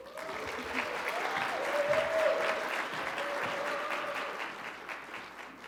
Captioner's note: audience cheering and clapping